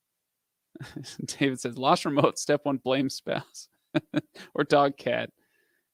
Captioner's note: chuckles